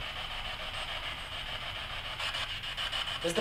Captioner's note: static buzzing